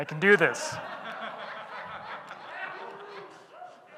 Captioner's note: audience laughing